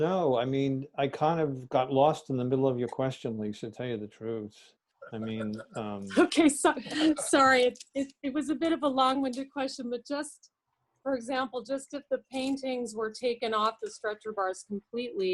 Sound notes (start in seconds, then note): 5.0 laugh